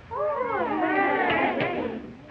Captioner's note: bellhops exclaiming